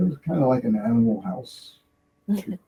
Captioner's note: stoner laughing